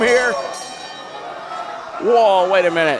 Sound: bell rings

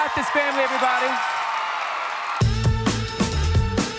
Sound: audience cheering; upbeat music

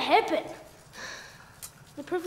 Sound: Flame sighs

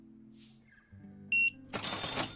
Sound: beeping

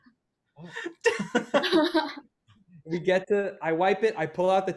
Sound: laugh

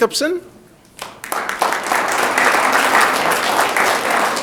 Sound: audience clapping

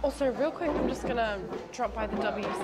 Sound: bench scraping across the floor

